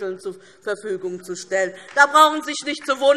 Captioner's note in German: Beifall